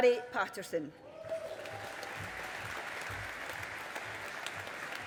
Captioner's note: audience applauding